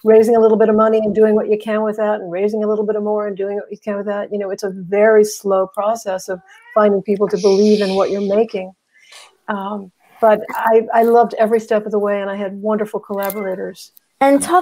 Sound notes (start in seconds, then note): 7.3 meow